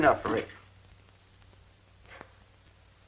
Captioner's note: sighs